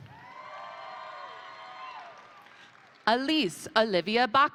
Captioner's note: crowd cheering; crowd applauding